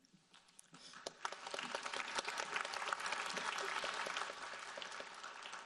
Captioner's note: audience applauding